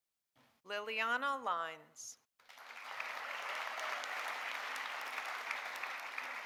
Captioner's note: audience applauding